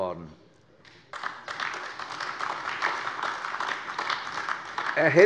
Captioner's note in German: Beifall AfD